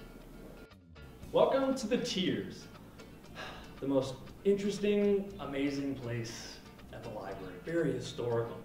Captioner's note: sigh